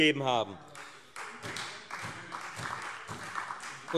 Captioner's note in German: Beifall Freie Demokraten und SPD - Widerspruch BÜNDNIS 90/DIE GRÜNEN